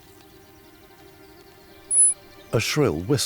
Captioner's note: souslik whistles